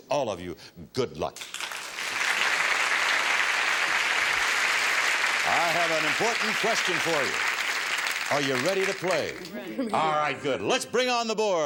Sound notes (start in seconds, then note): 3.5 audience applause